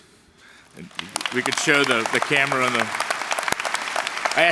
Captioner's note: applause